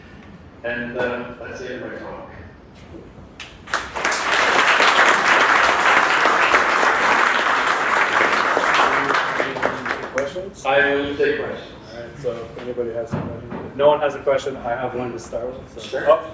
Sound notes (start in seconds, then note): 3.4 applause